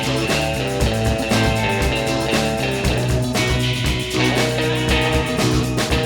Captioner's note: none